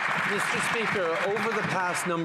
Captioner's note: some Applause